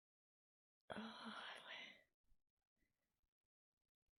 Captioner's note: whispers